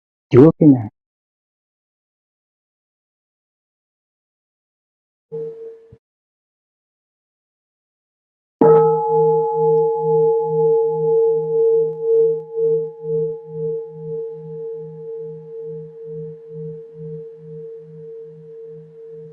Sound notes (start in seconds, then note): 8.5 bell